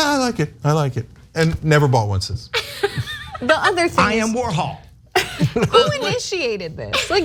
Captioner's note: laugh